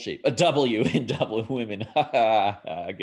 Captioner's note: man laughing